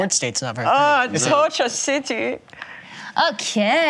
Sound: imitates German accent

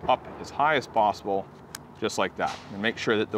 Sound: clicks

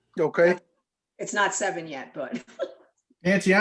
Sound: chuckles

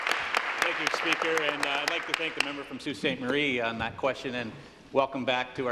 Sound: applause

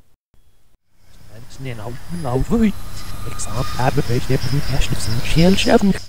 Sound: rewind sound only for longer

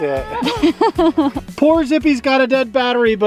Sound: laughs

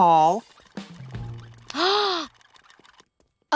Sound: gasping

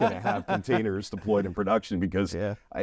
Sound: interviewees laugh

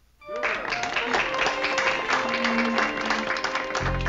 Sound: applause

